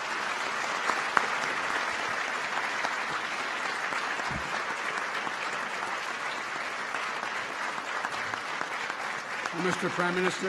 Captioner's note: applause